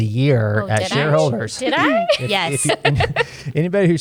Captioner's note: laughs